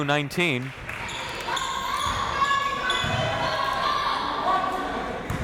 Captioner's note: crowd members shouting